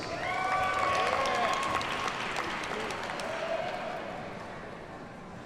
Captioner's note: audience cheers and applauds